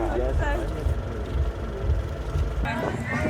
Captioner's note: overlapping chatter